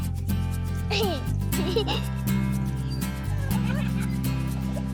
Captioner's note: giggling